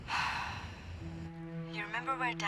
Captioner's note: sighs